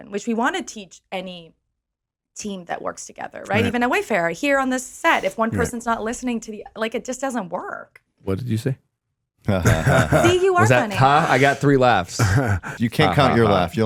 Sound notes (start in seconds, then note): 9.4 laughing